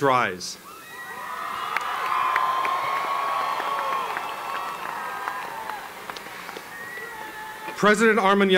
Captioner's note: applause